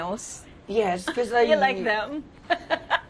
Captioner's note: laughs